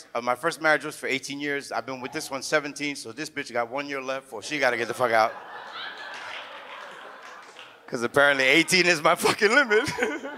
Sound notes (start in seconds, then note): 4.5 audience laughs